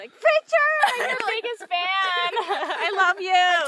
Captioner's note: laughs